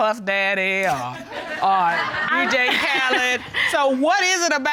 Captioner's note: audience laughs